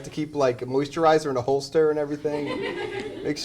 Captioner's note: laughter